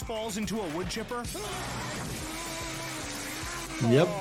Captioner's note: villain screams